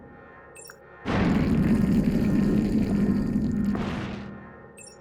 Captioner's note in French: bruit de la porte